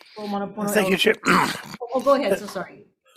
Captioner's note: clears throat